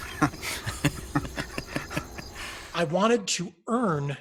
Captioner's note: laughing